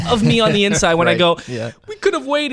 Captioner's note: laughs